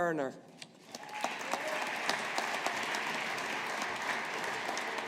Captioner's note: audience applauding